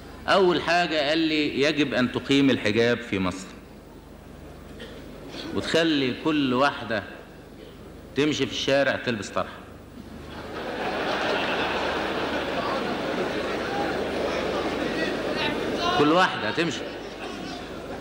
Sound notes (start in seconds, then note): 10.2 audience laughter; 14.7 audience reactions